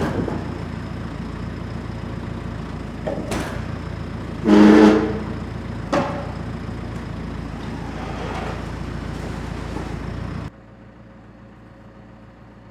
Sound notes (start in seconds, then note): 4.0 machine scrapes